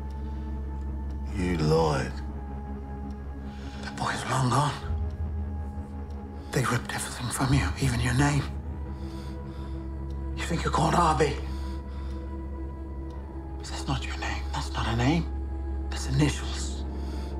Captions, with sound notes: You lied. That boy is long gone. They ripped everything from you, even your name. - (BREATHES DEEPLY) - You think you're called Arby. But that's not your name. That's not a name, it's initials.